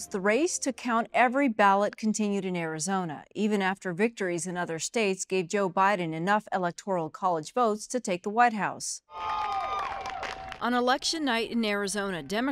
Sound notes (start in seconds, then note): 9.2 crowd shouting